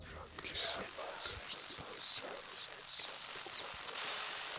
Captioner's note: ghostly voices whispering